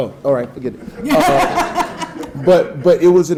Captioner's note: audience laughing